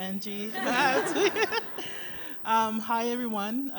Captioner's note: laughter